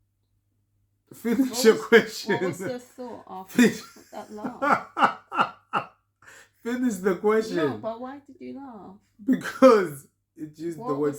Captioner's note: laughter